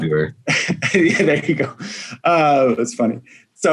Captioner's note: laughs